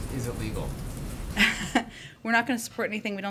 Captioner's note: laughs